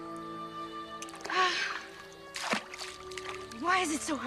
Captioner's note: sighs